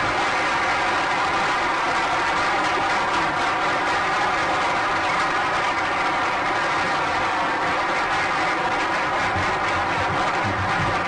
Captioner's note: applause